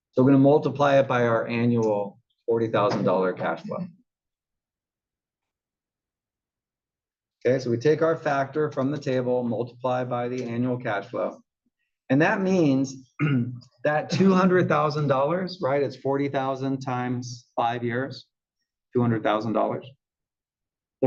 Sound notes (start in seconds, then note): 13.1 cough